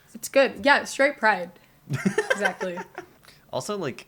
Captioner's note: laughter